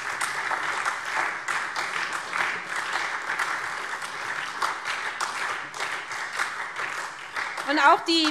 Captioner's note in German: Beifall SPD und DIE LINKE